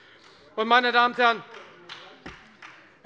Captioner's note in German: Beifall bei der FDP